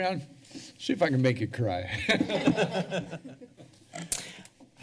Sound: laughter

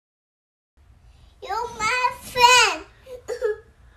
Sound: baby laugh

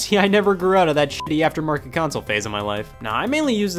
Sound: beeps

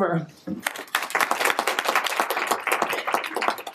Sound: applause

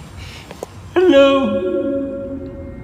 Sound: echoes

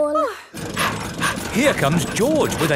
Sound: daddy pig panting

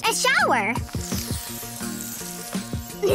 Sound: showering sound

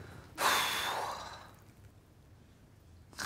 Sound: sighs

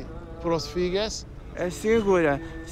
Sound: speaks foreign language

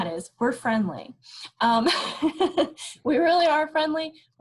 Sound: laughs

